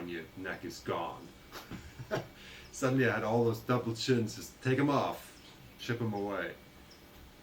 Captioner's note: laughter